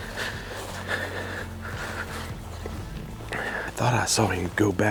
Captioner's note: clothes rustling